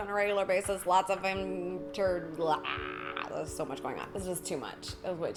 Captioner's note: groans